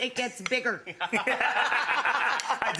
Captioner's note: all laughing